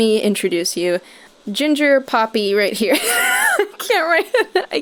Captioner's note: dying laughing